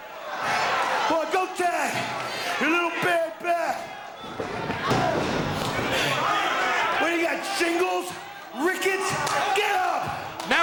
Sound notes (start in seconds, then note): 4.1 feet stomping; 4.9 crowd vocalizing